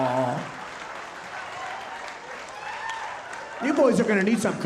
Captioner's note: audience laughing, cheering and applauding